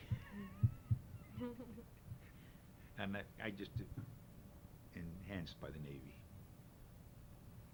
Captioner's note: both laugh